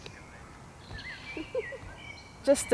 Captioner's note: laughter